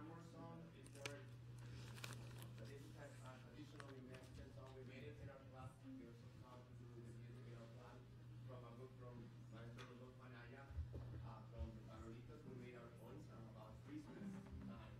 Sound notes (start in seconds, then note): 5.4 speaking in foreign language